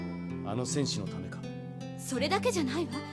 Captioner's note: none